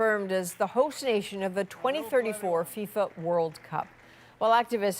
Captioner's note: applause